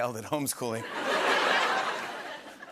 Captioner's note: laughter